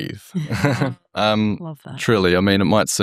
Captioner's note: participants laughing